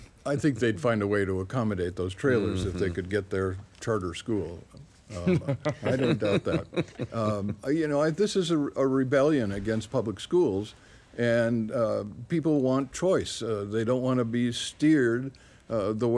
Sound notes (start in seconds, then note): 5.1 panelists laughing